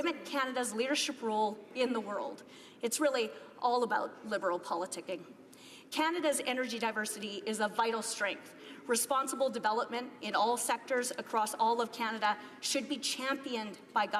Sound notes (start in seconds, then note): none